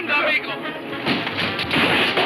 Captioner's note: speaks foreign language